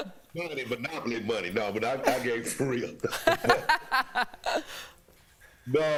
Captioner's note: laughter